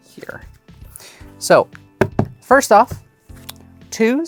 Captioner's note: thumps cards